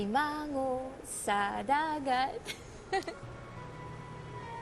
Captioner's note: laughs